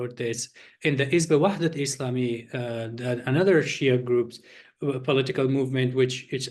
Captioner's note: non english speech